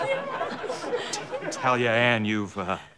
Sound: audience laughter

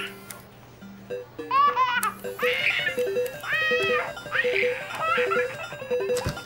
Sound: baby screams

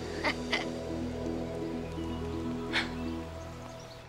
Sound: Drogo laughing

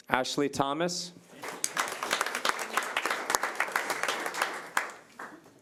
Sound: audience applauding

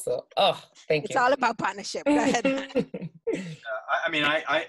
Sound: laughs

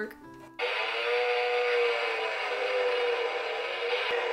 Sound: buzzing; still buzzing

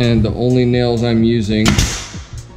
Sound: nail gun banging

